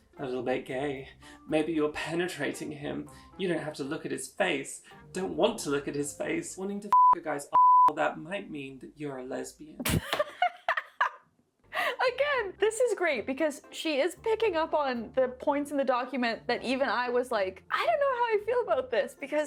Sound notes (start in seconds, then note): 7.5 beeping; 10.1 laughing